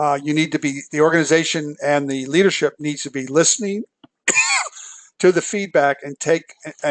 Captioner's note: cough